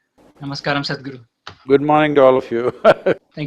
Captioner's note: laughs